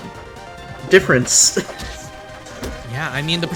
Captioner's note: chuckles